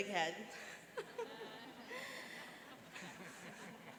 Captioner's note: laughing